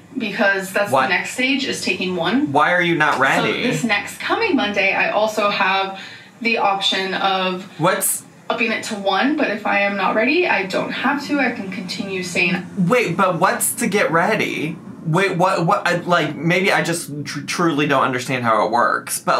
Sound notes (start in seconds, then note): 15.4 stammering